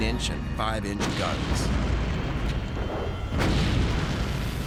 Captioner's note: gunfire